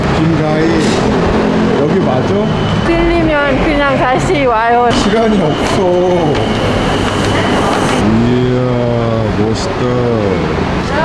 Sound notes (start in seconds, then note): 4.5 laughing